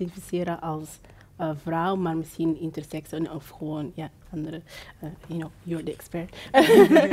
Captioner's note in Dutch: gelach